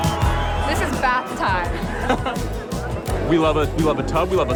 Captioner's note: laughter